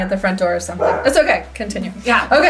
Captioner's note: dog barking